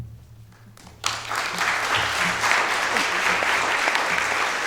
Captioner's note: audience applauding